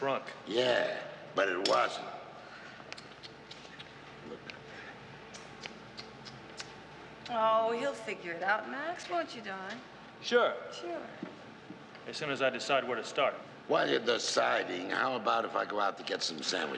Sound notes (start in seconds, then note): 2.6 tongue clucking